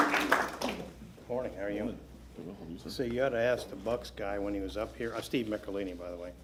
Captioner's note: applause